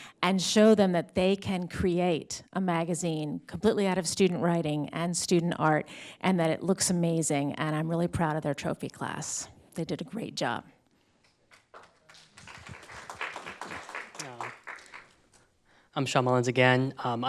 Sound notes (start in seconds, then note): 11.3 audience claps